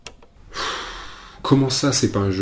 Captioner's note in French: soupire